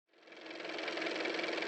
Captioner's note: car motor